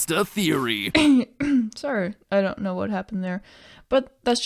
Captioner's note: cough